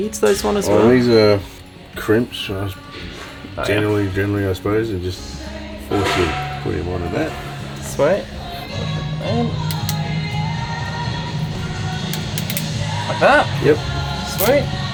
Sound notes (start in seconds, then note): 9.6 radio plays in background; 9.6 wire clipping